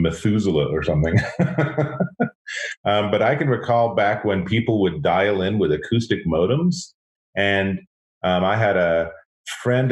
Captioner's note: laughs